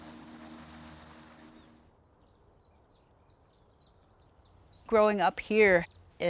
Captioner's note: birds chirping